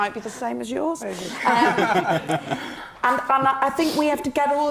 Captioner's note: all laughing